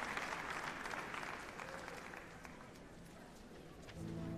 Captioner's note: applause